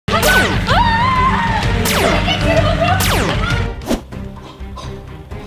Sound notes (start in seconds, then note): 0.6 screams; 1.8 laser fires; 2.6 dramatic music